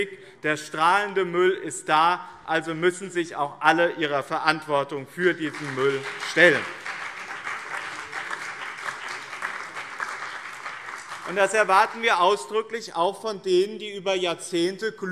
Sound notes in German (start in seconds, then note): 7.1 Beifall BÜNDNIS 90/DIE GRÜNEN und CDU